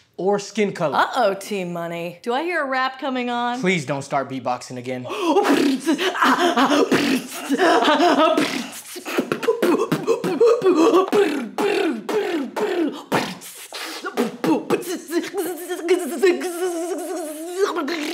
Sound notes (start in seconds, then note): 5.1 terrible beat boxing